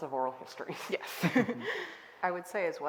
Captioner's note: all laughing